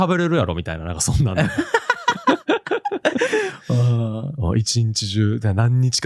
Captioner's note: laughter